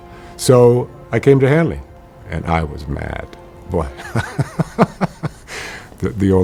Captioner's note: chuckles